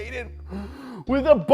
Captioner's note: inhalation